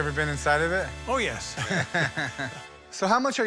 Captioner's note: Chumlee laughs